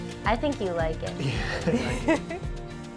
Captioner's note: laughs